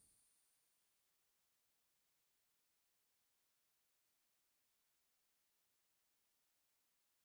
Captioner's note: No audio